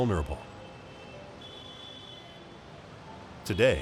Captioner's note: horn blaring